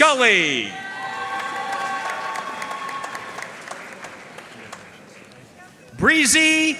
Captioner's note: audience cheering and applauding